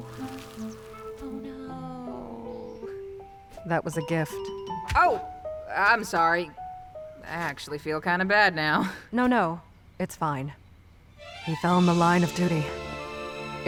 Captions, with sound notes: (quietly) Oh no...~ That was a gift. Oh. I'm sorry. I actually feel kinda bad now... No, no... it's fine. (sad music) He fell in the line of duty...